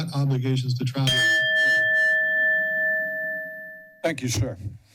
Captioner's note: bell rings